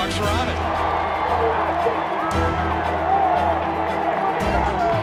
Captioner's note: cheering